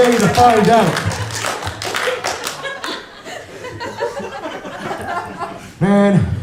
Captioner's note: giggles and a few claps from audience